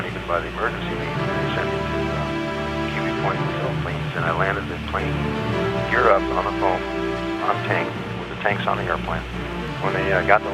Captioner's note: pilot radio call